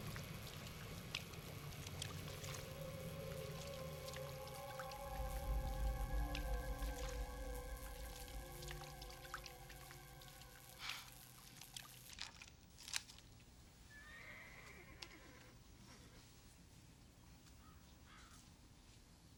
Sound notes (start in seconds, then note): 10.8 scoffs; 13.9 horse neighing